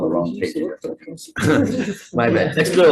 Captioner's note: senators laughing